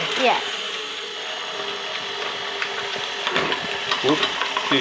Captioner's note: whirring continues